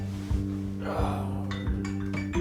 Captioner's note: groaning